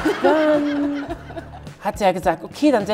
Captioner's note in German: Lachen